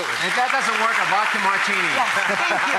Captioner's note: audience applause